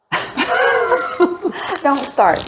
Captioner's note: laughing